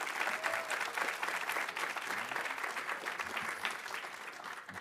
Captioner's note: audience applauding